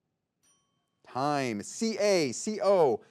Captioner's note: timer chimes